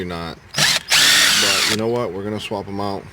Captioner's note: electric drill